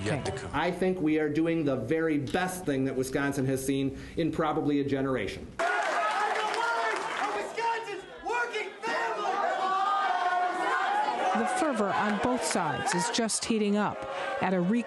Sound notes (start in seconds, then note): 5.1 cheering and applause; 5.3 shouting